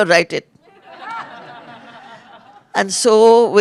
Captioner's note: laughter